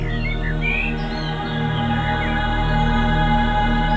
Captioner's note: birds are chirping